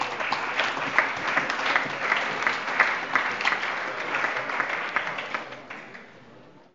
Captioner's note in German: Allgemeiner Beifall